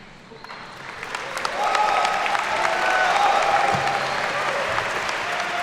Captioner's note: attendees cheer and clap